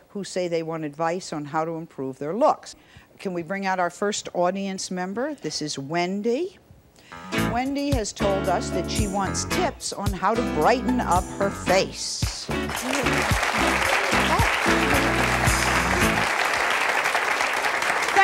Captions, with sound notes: who say they want advice on how to improve their looks. Can we bring out our first audience member. This is Wendy. Wendy has told us that she wants tip on how to brighten up her face. (audience applauding)